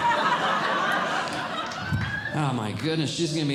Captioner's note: audience Laughing